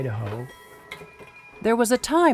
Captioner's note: machine buzzing